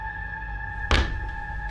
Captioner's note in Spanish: golpe